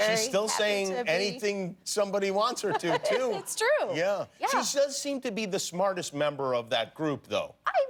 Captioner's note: laughter